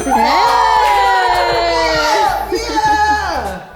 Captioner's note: scoreboard dings; crowd cheering; exclaiming